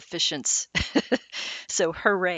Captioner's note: laughing